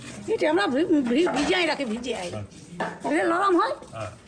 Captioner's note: foreign language